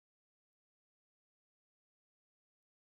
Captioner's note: speaking French